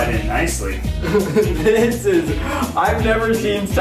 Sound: laughing

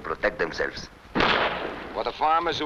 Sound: gunshots blasting

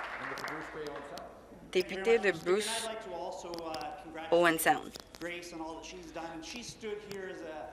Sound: applause

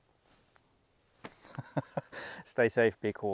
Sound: laughs

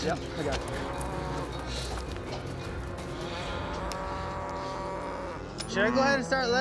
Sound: cows mooing

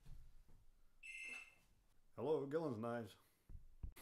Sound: phone ringing

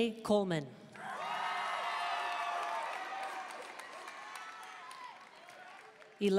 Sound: audience cheering and applauding

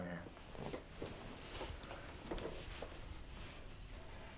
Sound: rustling

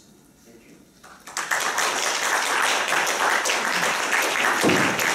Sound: applause

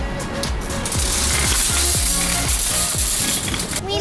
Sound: grocery cart wheels rattling

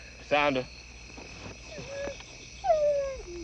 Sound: whimpering

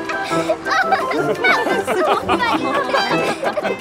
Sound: laughing

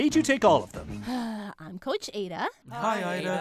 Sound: sigh

